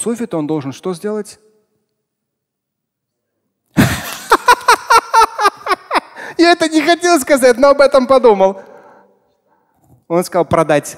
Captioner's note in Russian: Смеётся